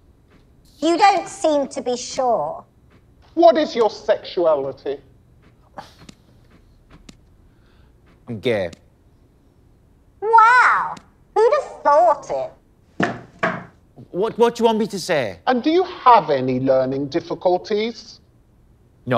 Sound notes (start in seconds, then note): 5.7 interviewee sighs; 9.2 bone thudding; 13.0 bone thudding